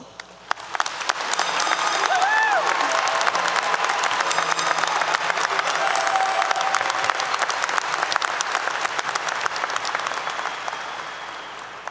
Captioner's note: applause 👏 👏